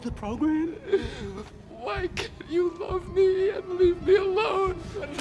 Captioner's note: sobs